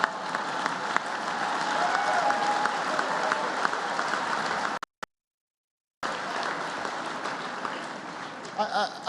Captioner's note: laughter and applause